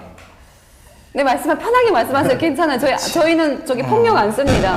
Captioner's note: jokingly passive aggressive